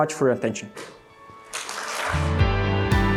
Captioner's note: applause